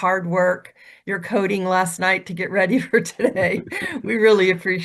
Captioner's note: laughs